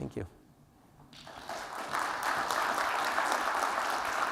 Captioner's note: applause